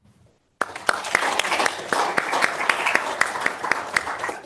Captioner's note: audience claps